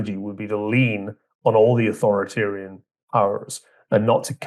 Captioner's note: none